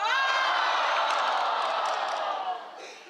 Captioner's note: boos